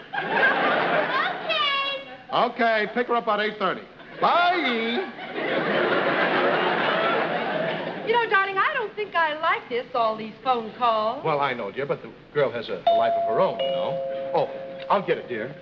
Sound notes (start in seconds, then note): 12.8 doorbell rings